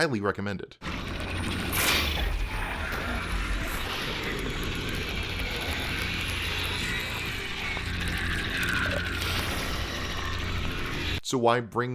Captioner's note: gameplay noises